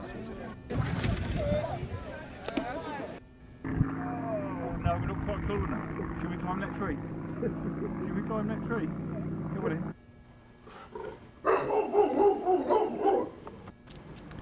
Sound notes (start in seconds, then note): 11.4 dog barking